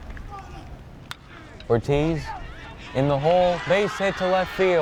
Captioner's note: bat cracks